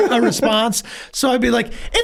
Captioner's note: Rob laughs